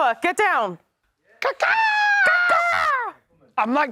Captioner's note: ca-caw